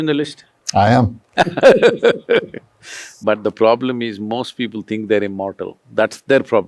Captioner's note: laughs